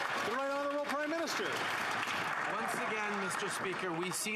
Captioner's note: some Applause